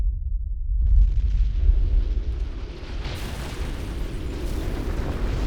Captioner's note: rumbling, crashing